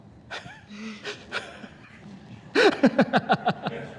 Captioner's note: laughs